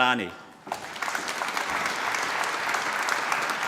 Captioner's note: applause